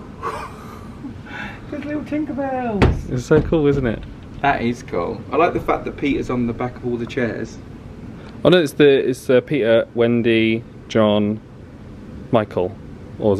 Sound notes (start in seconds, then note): 0.1 laughs